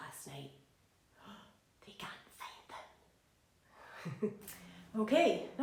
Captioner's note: laughs